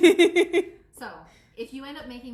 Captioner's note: laughs